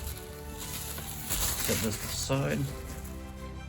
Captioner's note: plastic wrapping